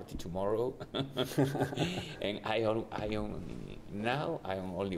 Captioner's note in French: rires